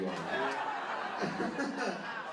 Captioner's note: laughter